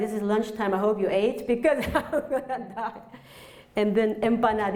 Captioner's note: laughs